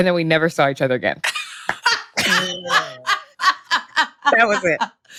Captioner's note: laughs